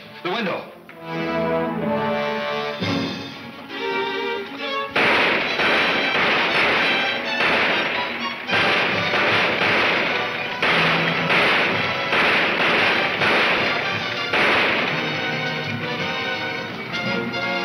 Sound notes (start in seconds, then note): 0.2 dramatic music; 3.8 gunshots banging; 9.6 gunshots banging